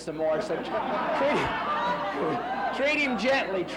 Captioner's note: laughs